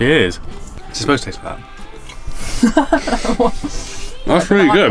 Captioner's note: laughing